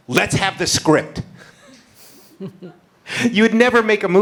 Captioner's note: laughter